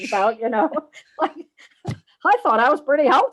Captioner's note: all laugh